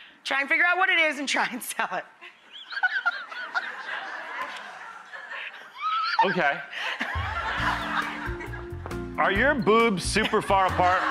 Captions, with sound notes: Try and figure out what it is and try and sell it. (Rachael laughing) Okay. Are your boobs super far apart?